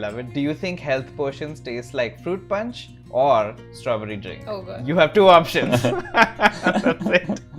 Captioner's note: laughter